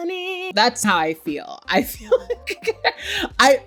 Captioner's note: laughs